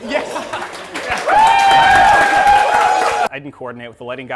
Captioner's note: applause